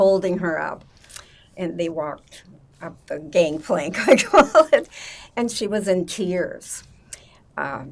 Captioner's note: laughing